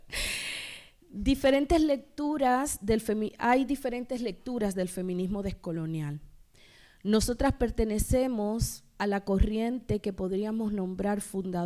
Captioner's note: speaking spanish